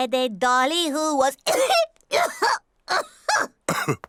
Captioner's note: coughs